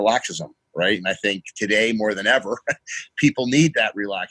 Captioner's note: chuckles